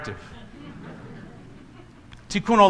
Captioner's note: congregation laughs